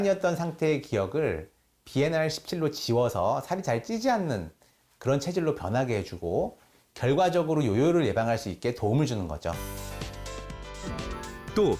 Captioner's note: voiceover